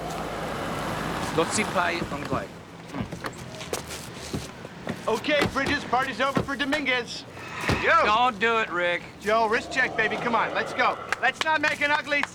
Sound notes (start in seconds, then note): 1.3 speaking Mandarin